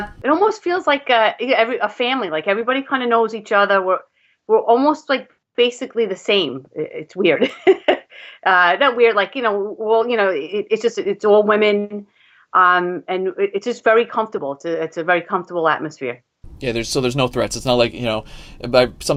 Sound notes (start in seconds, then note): 7.2 laughs